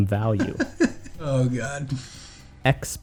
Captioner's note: laughing